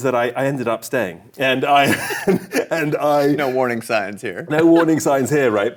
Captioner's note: laughs